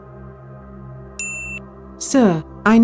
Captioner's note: com Chime